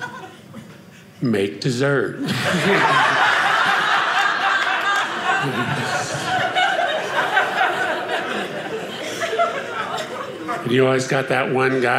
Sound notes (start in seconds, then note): 2.2 audience laughing